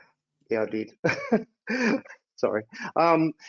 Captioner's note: laughs